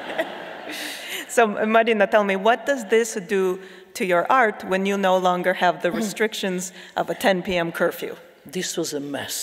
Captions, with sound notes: (laughing) - So Marina, tell me, what does this do to your art when you no longer have the restrictions of a 10 p.m. curfew? - This was a mess.